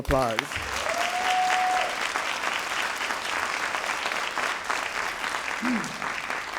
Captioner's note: all applauding and cheering